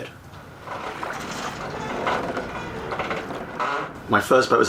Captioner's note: sounds of Water and Boat Rocking